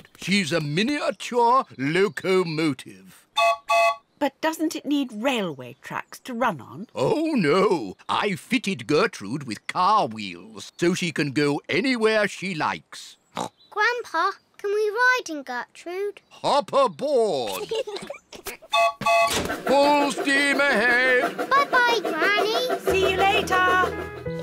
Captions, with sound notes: She's a miniature locomotive. (TOOTS WHISTLE) -But doesn't it need railway tracks to run on? -Oh, no! I've fitted Gertrude with car wheels so she can go anywhere she likes. (SNORTS) Grandpa, can we ride in Gertrude? -Hop aboard! -(PIGLETS GIGGLE) (TOOTS TRAIN WHISTLE) Full steam ahead! -Bye-bye, Granny! -See you later!